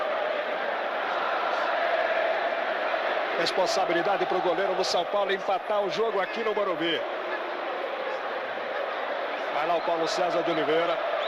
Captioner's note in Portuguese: aplausos